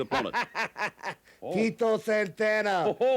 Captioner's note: Fuji laughs